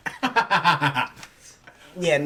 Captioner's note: laughing